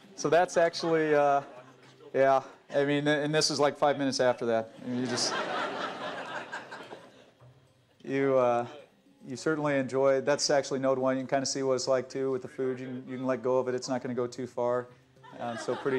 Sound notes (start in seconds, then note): 4.7 laughter